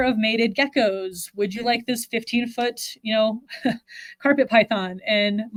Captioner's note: chuckles